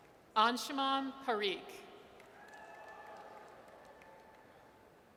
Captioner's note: audience cheers